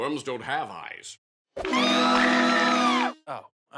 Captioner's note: screaming